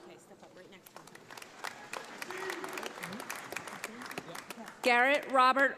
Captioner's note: audience applauding